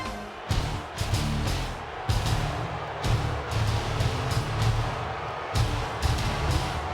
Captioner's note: audience booing; rock music